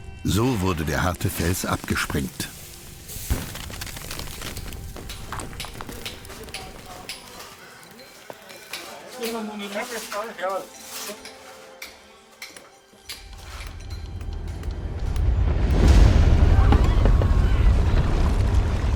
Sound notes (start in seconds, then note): 4.6 rock shattering; 15.2 shaft collapses